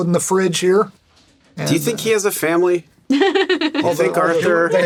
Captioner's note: laughs